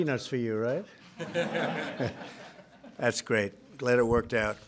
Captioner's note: laughter